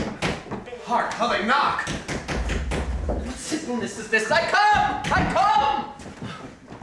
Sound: knocking; knocking

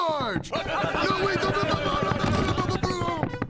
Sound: yelling

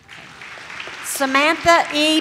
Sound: audience claps

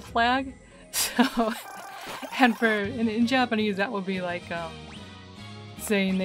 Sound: laughing

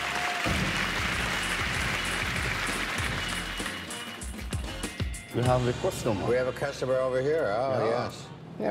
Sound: applause

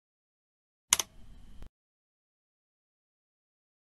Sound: click sound

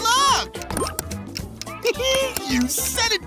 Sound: laughing

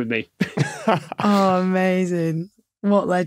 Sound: chuckle

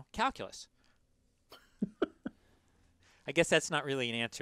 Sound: laugh

